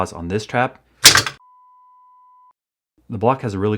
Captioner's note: snap